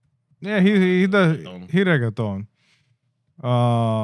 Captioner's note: speaking In Foreign Language